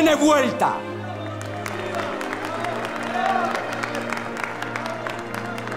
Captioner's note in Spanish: Vítores, aplausos